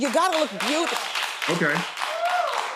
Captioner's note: audience applauding